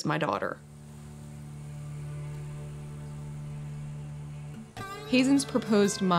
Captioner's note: insects buzzing; strumming acoustic music